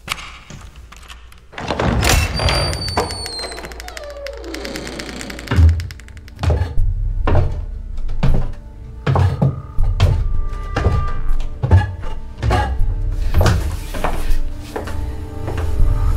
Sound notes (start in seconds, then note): 1.5 door hissing; 5.8 footsteps thumping; 10.8 suspenseful music